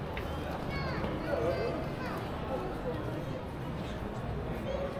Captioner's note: people chattering